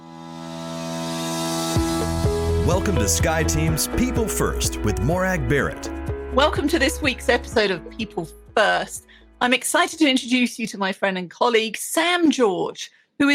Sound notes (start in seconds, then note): 0.1 upbeat music; 2.8 voiceover